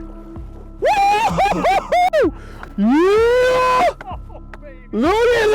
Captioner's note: yelling in celebration